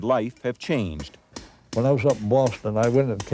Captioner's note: mallet thuds